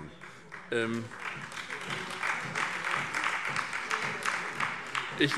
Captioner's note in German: Beifall SPD